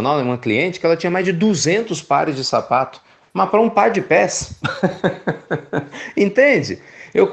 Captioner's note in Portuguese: Risos